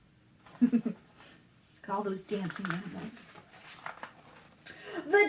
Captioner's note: laughs